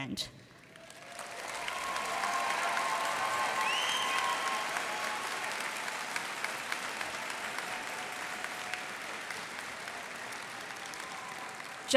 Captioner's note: cheers and applause